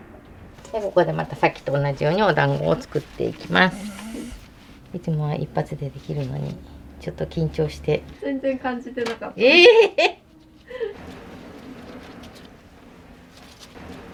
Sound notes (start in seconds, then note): 7.7 laughs; 9.2 laughs; 9.5 laughter